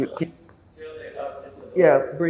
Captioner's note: drinking